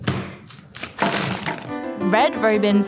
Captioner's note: fries pack thudding; plastic crinkling